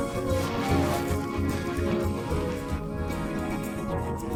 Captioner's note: laughs